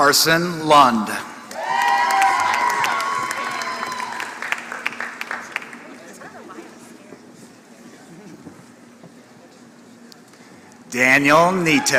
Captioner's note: applause